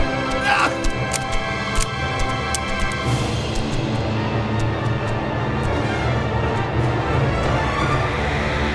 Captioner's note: gunfire; gun Clicks, Empty